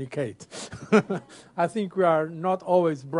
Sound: laughter

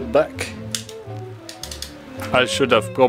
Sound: obligatory trigger clicking

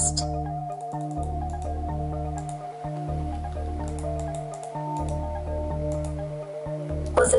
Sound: mouse clicking

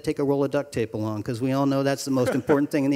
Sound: group chuckling

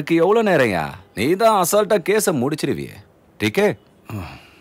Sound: speaks Hindi

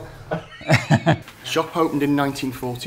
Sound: laughing

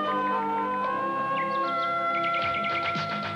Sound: bird singing

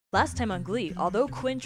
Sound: voiceover

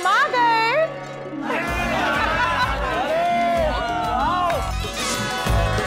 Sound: cheering

